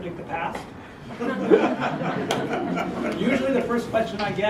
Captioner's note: laugh